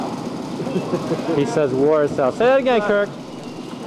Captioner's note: laughing